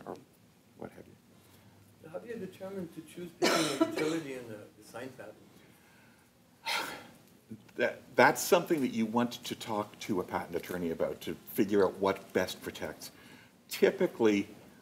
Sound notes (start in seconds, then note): 5.1 sigh